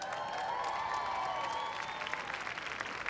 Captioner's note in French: Applaudissements